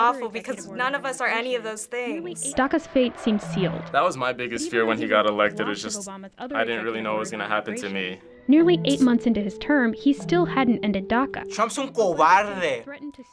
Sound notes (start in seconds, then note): 2.4 voice-over; 8.4 voice-over; 11.9 speaking Spanish